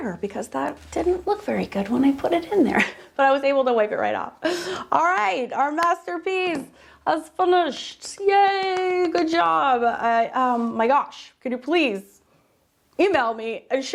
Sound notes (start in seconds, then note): 4.6 laughs